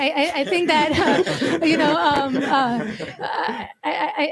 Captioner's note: laughter